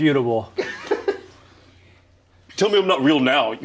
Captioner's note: people laughing